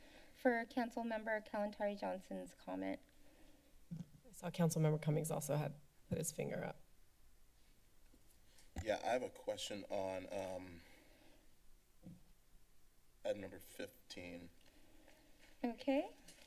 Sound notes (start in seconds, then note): 6.8 silence; 12.0 mic Thumps